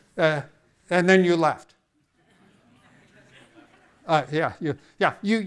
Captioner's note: audience laughing